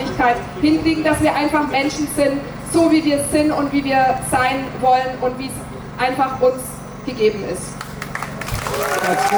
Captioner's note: cheers